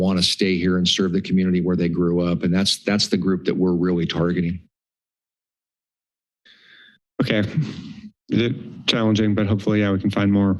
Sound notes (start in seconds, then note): 5.5 silence